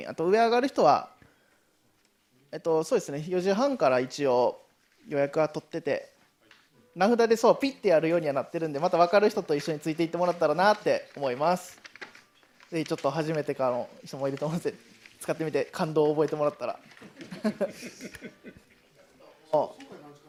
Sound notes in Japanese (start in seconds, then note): 17.0 笑い